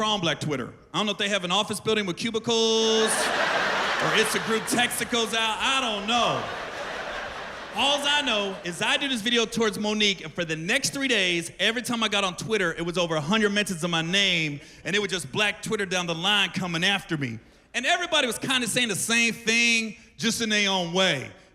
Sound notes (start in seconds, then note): 2.9 laughter